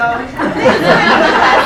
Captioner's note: laughing